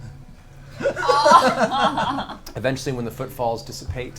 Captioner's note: all laugh